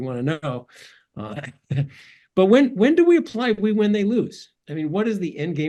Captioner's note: laugh